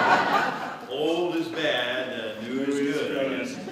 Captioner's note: laughter